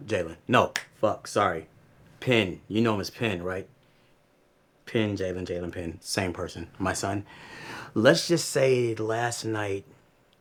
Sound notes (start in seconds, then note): none